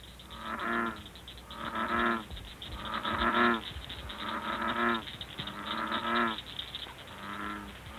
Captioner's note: bullfrog sounds